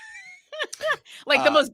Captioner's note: laughing